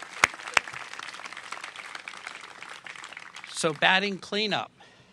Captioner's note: applause